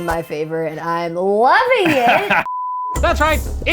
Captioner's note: professor laughs